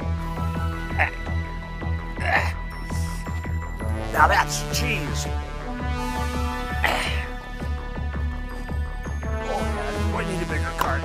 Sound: grunting

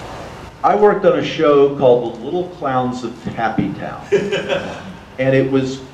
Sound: audience laughter

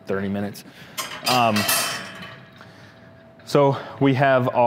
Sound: metal clanking

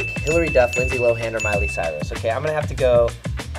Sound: twinkling bell

